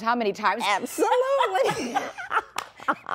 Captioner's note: laughter